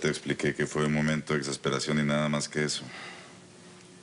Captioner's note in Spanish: Con tono sombrío